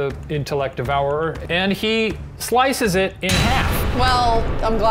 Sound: echoing clang

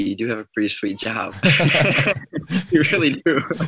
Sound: laughs

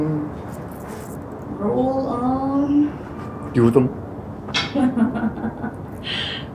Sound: subway train

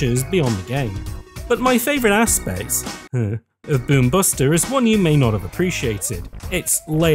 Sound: hur hur

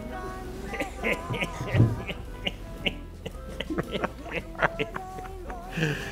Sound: Herman and Johan laugh

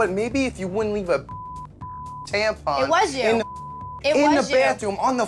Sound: beep

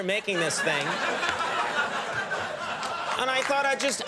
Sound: audience laughing

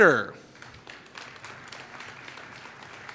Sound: applause

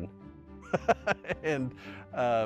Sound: laughs

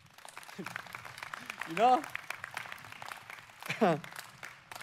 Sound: audience applauding

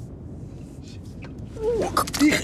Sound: wretching

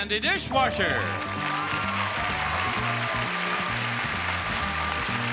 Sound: audience applause

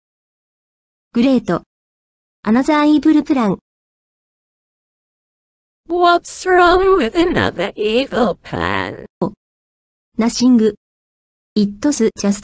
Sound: laughs

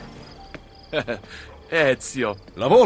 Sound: Volpe laugs

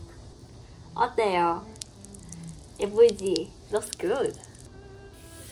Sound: juice dripping

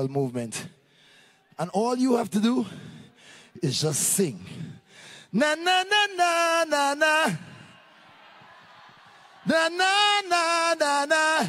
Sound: cheering/Applause

